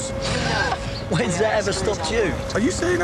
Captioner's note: laughs